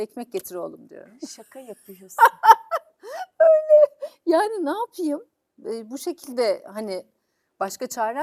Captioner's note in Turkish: kahkaha